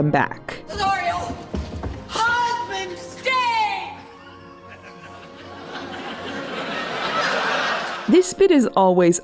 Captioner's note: audience laughter